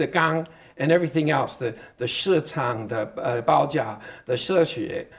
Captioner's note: speaking Chinese